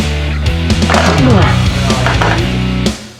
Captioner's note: grunting; upbeat music